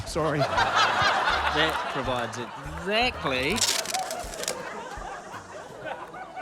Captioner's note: laughter; tape stretches